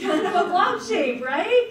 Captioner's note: audience laughs